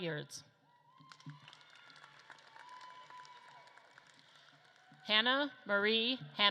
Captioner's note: audience claps and cheers